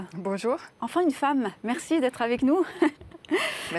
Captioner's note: laughter